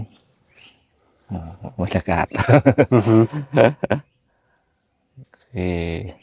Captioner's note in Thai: เสียงหัวเราะ